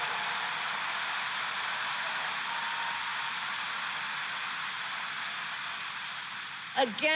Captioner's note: applause